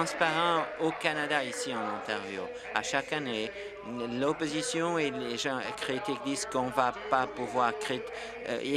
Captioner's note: applause